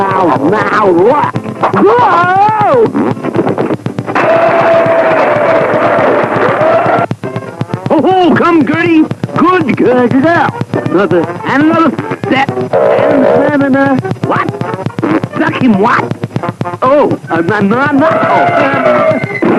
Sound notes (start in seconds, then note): 13.2 creaking and Duckula stuttering; 17.4 stutters; 18.0 elephant trumpeting